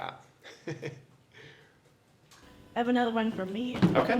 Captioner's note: laugh